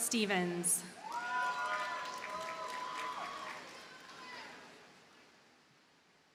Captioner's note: audience cheers and applauds